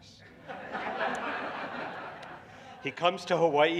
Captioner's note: laughter